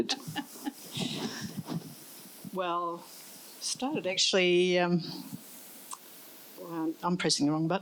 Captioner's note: laughs